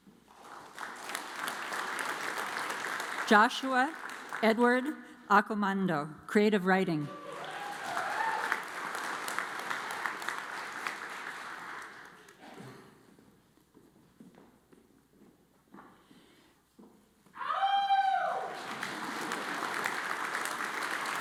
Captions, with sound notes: (audience applauds) Joshua Edward Ackomando, Creative Writing. (audience applauds) (audience applauds)